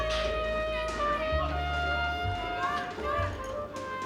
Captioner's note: muffled shouting